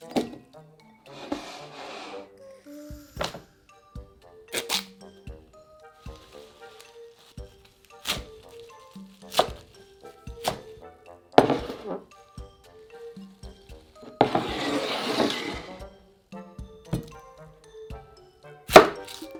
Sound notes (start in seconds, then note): 9.2 chopping